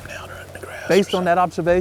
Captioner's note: whispering